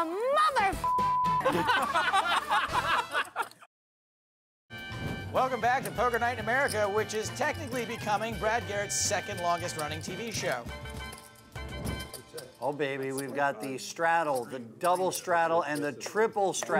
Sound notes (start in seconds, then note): 1.4 laughter